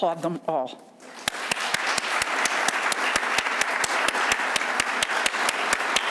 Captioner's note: audience applauding